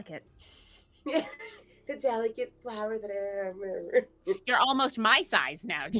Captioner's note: laughing